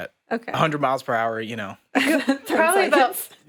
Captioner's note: laughs